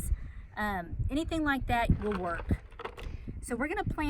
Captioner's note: beans sounding